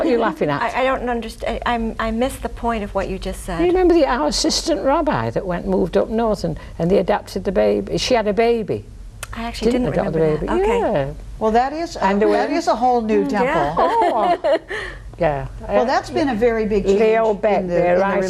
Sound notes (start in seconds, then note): 13.5 all laughing